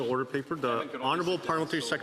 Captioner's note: speaking French